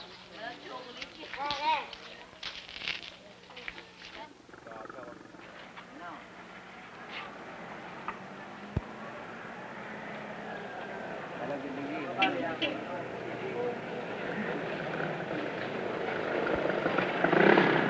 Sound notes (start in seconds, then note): 0.1 indiscriminate chatter; 6.2 small engine sputtering; 8.7 car approaching; 12.0 beep-Beep; 12.0 horn sounds; 14.3 traffic and car engines